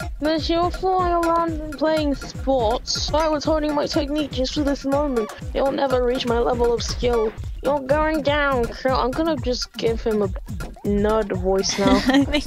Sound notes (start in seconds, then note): 7.3 nerd voice; 11.6 laughs